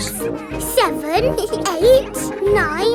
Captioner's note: both giggle